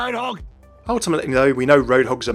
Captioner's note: voiceover